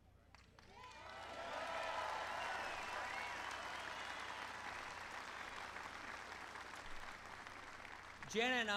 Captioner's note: applause